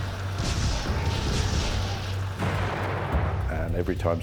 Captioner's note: gunfire